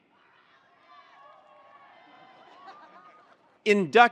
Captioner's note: attendees cheering